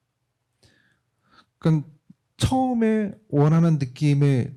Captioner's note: speaking korean